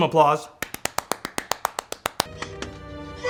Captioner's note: clapping